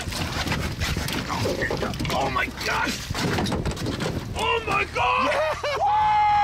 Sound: banging around boat

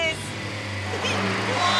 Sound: tires Screech; giggles

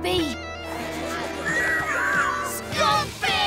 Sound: squeaking

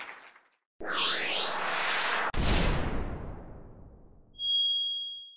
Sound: electronic swoosh; ding

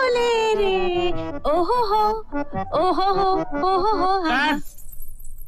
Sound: humming

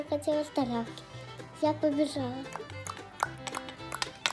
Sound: clink-clink-clink - hooves clattered

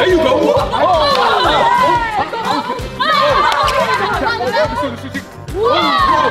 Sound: all cheering and shouting

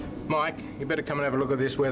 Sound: none

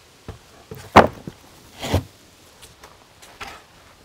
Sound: wood planks clanking

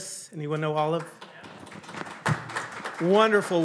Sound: audience applauding

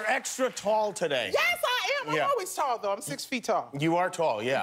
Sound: cheers and applause

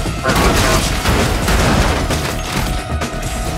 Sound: loud clanging

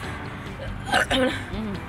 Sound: burp

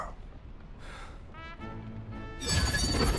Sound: sighs

